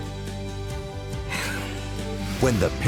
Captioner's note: laughs